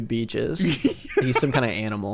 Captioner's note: laughs